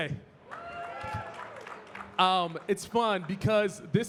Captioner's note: audience cheering and clapping